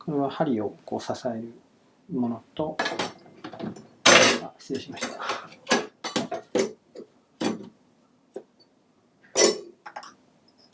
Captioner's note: clang